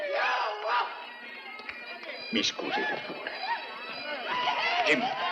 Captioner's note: men whooping